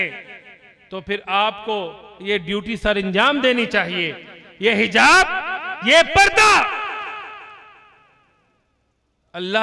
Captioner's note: shouting